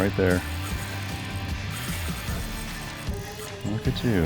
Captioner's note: fishing rod reels